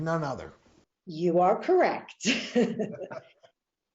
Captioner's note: laughing; laughs